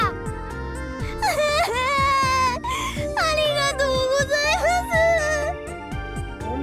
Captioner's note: sob